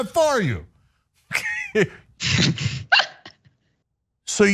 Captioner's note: laugh